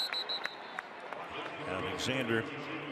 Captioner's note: whistle